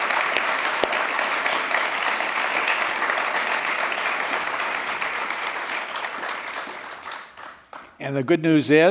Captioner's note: applause